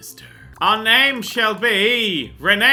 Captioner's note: evil voice; normal voice